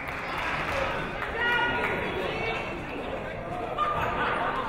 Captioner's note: people shouting in the crowd